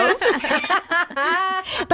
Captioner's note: laughing